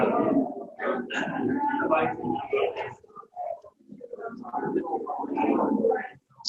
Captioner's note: chatter